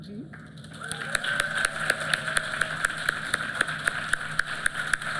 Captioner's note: applause